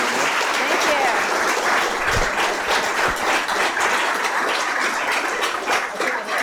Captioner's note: audience clapping